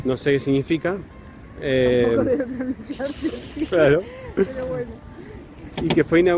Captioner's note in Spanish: risas